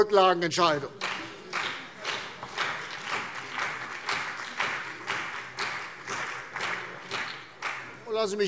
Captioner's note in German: Beifall CDU und BÜNDNIS 90/DIE GRÜNEN